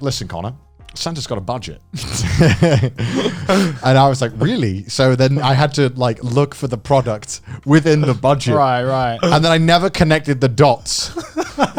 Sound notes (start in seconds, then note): 2.0 both chuckling